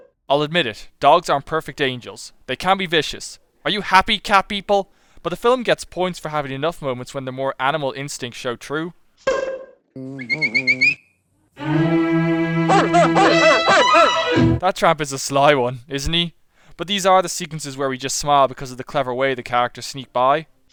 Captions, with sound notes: I’ll admit it; dogs aren’t perfect angels. They can be vicious. Are you happy, cat people? But the film gets points for having enough moments when their more animal instincts show through. [whistling] [barking] That Tramp is a sly one, isn’t he? But these are the sequences where we just smile because of the clever way the characters sneak by.